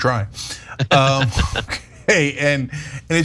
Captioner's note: laugh